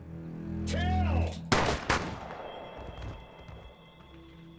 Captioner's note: gun shooting